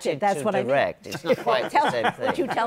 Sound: laughter

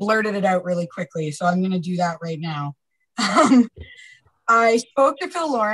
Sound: chuckles

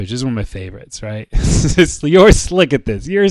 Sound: chuckles

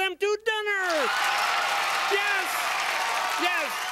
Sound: applause

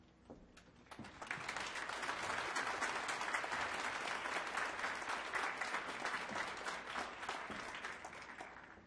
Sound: applause

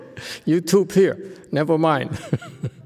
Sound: laughs

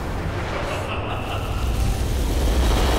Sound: laughs

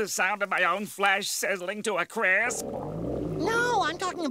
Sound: stomach growling

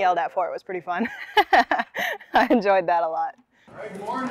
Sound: laughs

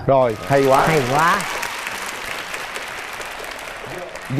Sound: audience applause

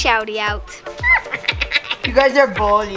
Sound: chuckles

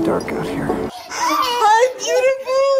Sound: child laughing

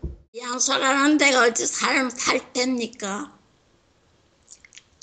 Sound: speaks in foreign language

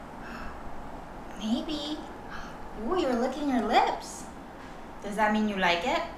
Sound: gasps

